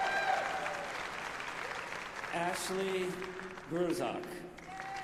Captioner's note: applause